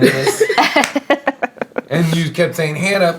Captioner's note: laughing